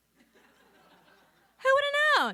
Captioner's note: audience laughing